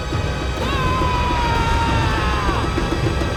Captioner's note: Zuko screaming